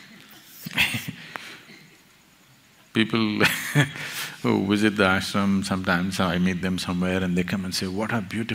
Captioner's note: laughs